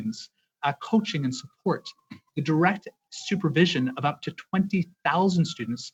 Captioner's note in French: voix de l'interprète